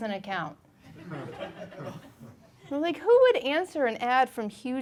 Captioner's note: audience laughing